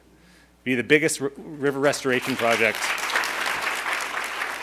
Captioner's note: audience applauding